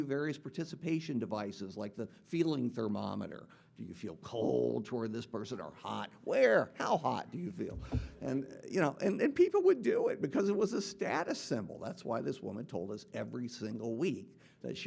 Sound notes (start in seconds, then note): none